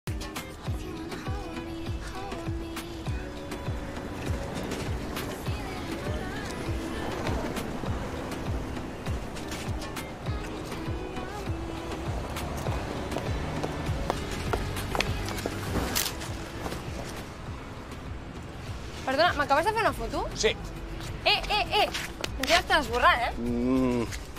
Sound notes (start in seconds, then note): 15.8 camera shutter